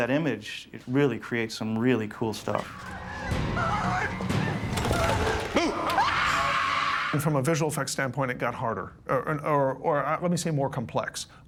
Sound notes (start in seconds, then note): 2.6 suspenseful theme playing; 4.7 screaming